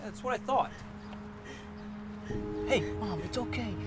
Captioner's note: crying